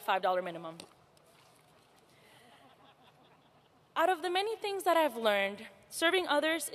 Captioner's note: laughter